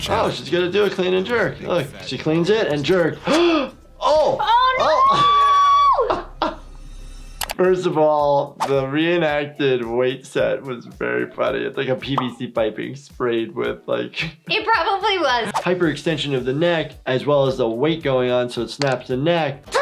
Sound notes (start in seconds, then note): 4.9 laughing